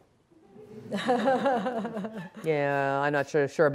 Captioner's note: laughing